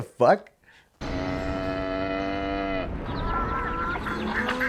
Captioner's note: cows, animals